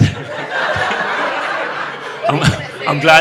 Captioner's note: audience laughing